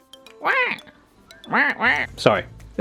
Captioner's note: quacking